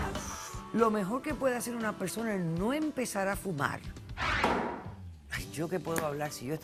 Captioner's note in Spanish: Inhala